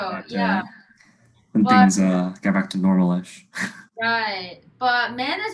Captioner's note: laughs